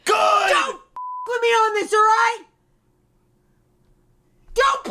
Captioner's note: beep